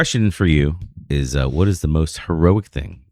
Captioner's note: uh